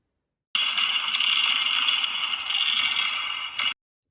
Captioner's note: fireworks bang